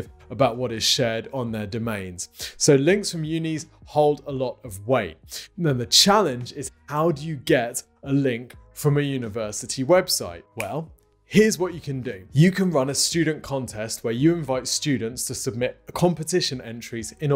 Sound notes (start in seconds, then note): 10.6 fingers snap